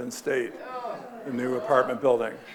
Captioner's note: audience groaning